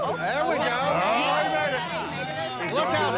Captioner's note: overlapping chatter